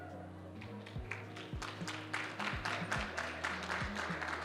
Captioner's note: applause